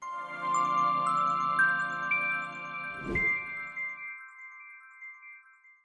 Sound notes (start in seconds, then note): 0.0 gentle music; 2.9 logo whooshing